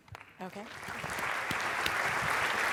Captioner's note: applause